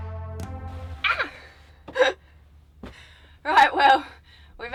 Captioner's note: laughing